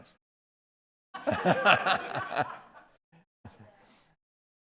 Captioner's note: laughing